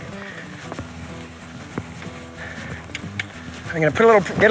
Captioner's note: mouth clicking